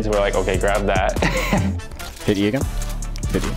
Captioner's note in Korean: 웃음